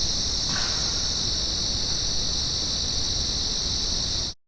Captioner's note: insects chirp; wood knocks